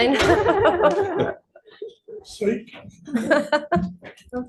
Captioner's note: laughing